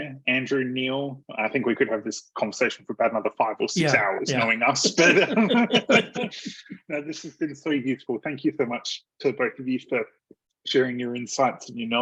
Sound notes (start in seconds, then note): 6.2 laughter